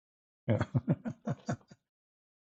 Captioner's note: Ketawa